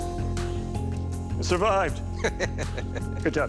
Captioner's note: laughs